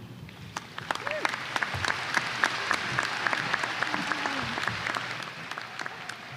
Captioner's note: applause